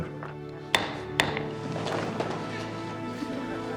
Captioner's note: gavel banging; soft music